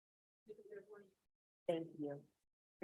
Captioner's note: participant faintly speaking